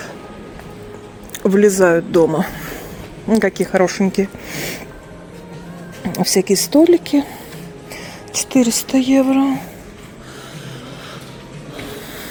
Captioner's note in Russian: тяжелое дыхание